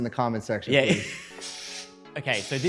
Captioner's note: laughter